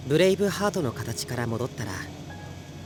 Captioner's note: none